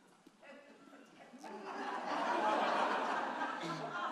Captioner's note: audience laughing